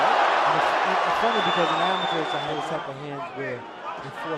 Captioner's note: cheers